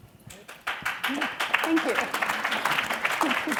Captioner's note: applauding